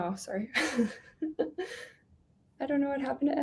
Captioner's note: chuckling